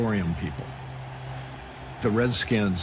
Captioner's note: cheering